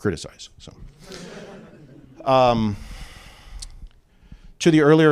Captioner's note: laughter